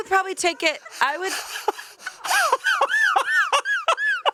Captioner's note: laughs